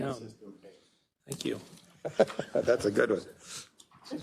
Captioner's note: laugh